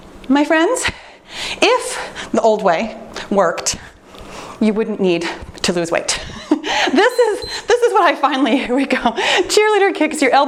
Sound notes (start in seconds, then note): 7.0 timer beeps